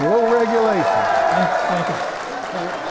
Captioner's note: applause